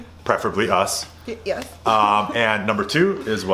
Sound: laughs

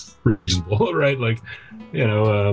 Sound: laughs

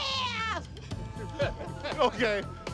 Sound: crew laughing

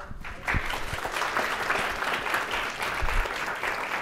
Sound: applause

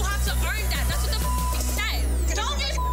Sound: beep

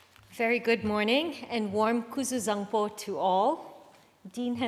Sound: speaks foreign language

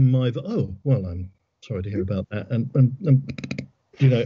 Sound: giggles

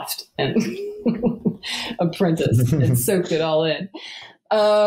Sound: laughs

